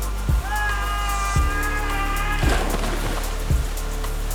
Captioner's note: Brian yelling; rushing water